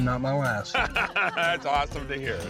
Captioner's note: laughter